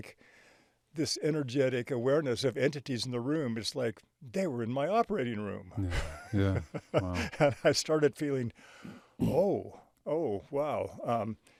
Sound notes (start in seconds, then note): 5.8 chuckling